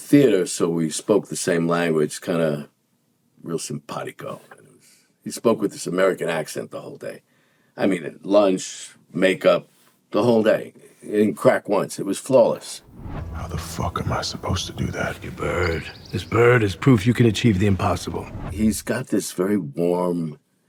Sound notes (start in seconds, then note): 15.4 bird chirping